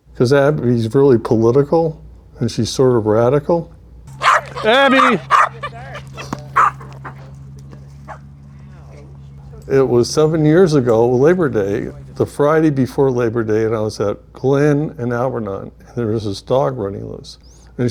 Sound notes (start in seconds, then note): 4.1 dogs barking; 6.2 ball bouncing